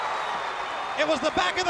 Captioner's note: crowd cheering